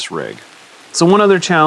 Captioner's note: rain falling